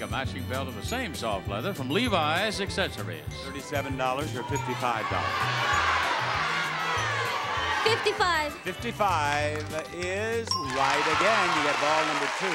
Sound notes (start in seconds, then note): 4.3 audience shouting